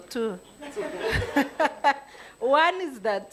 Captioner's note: attendees laughing